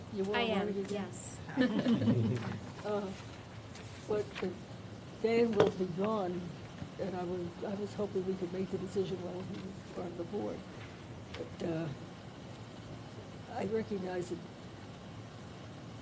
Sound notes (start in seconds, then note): 1.5 laughter